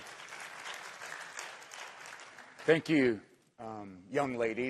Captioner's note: applause